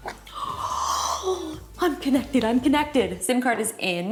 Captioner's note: gasps